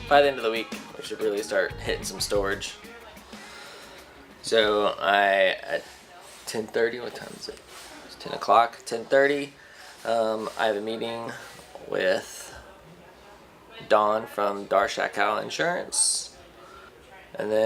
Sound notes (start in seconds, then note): none